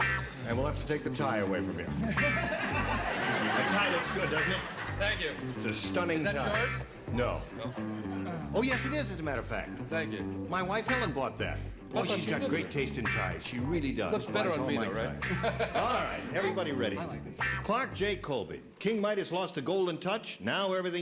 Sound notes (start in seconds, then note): 1.9 laughter